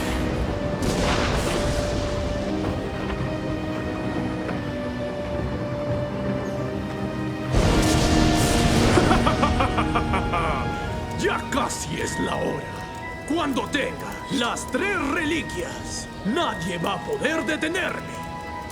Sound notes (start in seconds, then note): 0.2 dramatic theme; 6.3 thunderclap; 9.2 cackles menacingly